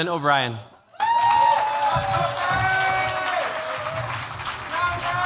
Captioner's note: cheers, applause